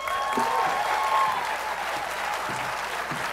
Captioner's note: applause